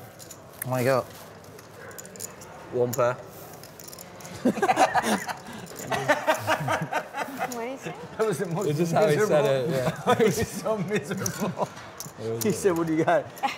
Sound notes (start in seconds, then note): 4.3 laughing